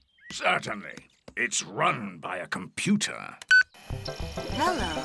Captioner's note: beeps